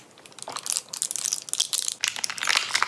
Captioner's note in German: Knistern